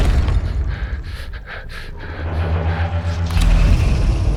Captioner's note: terrified panting